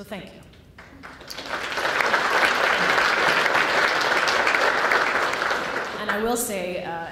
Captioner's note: applause